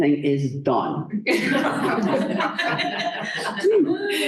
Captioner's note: laughter